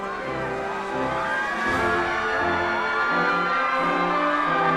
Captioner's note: attendees cheering